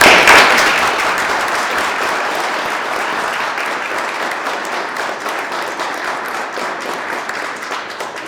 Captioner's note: applause